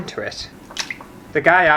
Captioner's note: plop!